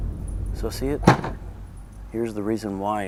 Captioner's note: boom